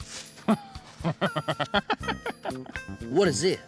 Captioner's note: chuckling